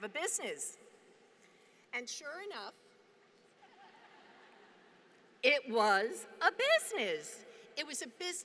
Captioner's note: laughter